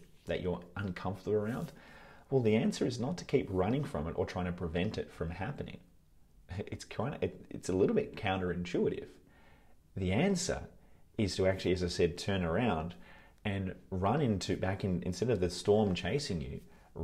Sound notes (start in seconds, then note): none